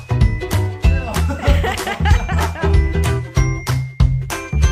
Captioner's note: laughter